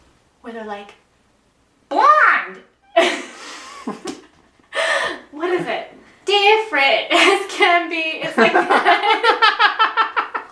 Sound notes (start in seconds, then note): 2.9 both laughing; 8.3 both laughing hysterically